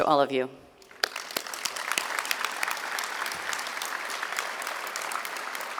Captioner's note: audience clapping